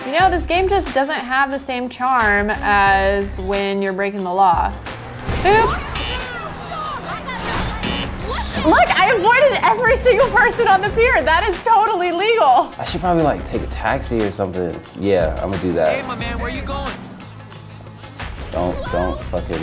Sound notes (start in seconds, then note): 7.8 beep